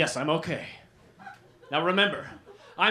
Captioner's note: laughter